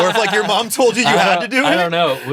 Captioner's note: Ian laughs